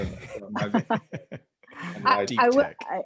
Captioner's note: laugh